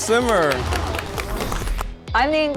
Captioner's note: applauding